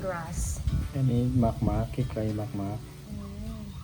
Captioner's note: dad speaking Thai